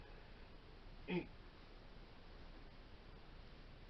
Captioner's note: murmur